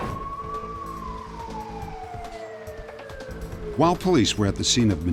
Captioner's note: police sirens